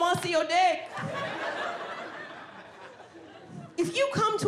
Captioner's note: audience laughing